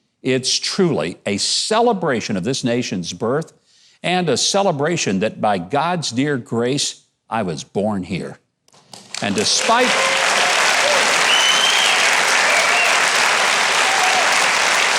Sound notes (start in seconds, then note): 8.8 audience clapping; 9.0 audience applauding